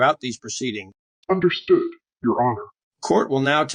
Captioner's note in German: verzerrt